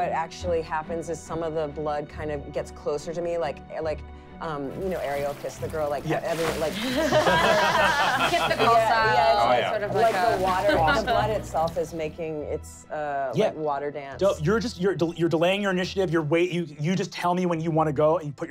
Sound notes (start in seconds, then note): 6.0 running water; 7.7 splashing